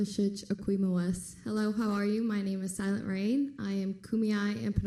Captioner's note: foreign language